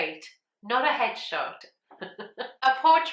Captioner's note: laughs